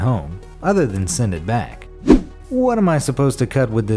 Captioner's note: air whooshes